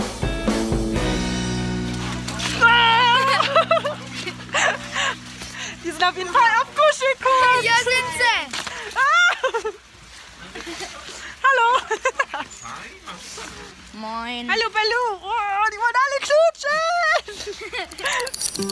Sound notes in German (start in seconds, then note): 2.5 lacht; 8.9 lacht